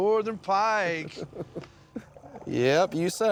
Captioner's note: chuckles